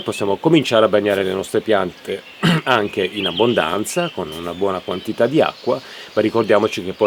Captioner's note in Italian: schiarire la voce